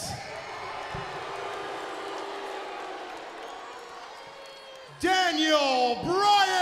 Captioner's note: crowd cheering